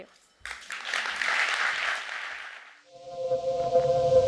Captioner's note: audience applauds; eerie electronic music